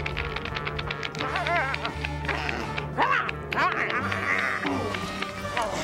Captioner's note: <i> grunting and snarling</i>